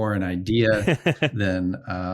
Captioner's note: laughs